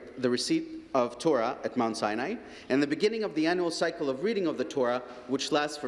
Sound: speaking alternate language

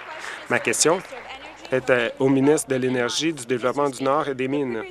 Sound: applause

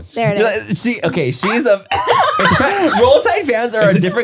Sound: laughs

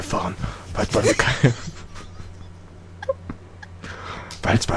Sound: laughing

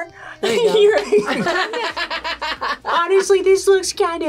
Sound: both laugh

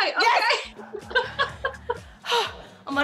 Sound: laughs

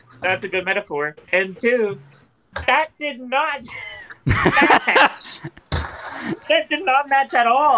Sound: laughing

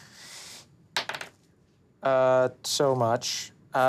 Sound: dice clattering

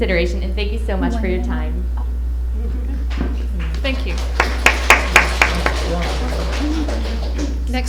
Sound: applause

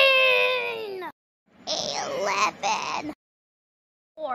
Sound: 13 Screaming

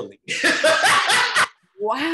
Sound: chuckles loudly

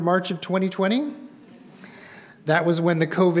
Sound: audience members murmuring

